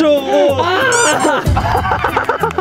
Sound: ta-da

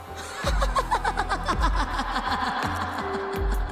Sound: laughter

